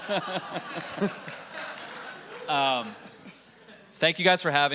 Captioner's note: audience laughing and clapping